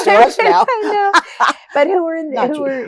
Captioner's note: laughter